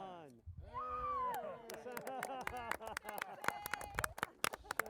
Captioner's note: crowd cheering